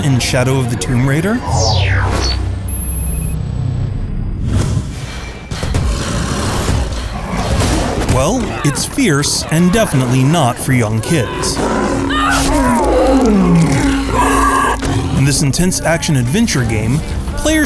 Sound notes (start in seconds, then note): 5.5 animal growling